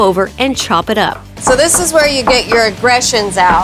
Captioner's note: knife chopping